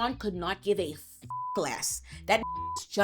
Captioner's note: beep